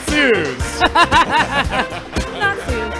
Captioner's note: laughing